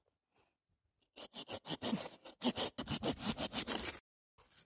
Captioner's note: sounds of the saw when cutting the vine, scrape, break, scrape, crack